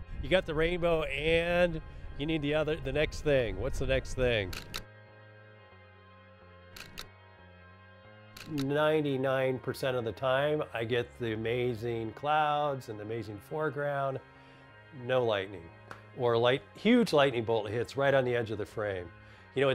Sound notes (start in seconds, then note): 4.5 camera shutter clicking